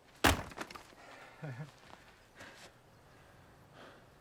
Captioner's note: jacket rustling; wood splitting; Ben chuckles; birds singing; Ben gasping